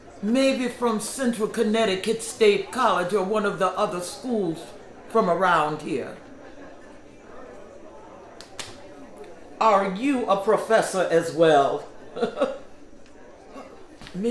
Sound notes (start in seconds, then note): 6.3 indistinct background chatter; 11.8 laughs